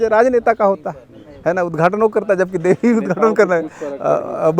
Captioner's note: laughs